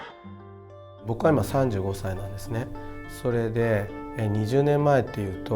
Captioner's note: speaking in foreign language